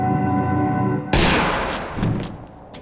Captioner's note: gunshot